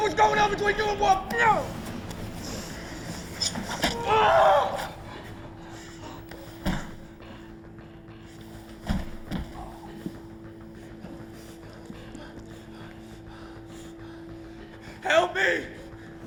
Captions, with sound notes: what was going on between you and Wolf? No. (DeHart screaming) (dramatic music) Help me.